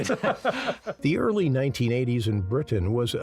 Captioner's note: all laughing